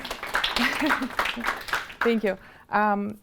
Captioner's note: audience applauding